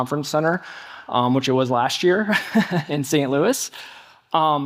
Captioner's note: chuckling